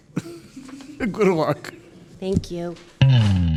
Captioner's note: laughing